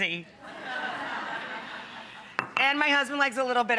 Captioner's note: audience laughing